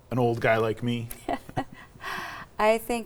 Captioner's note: both laughing